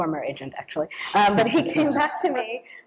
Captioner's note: laughter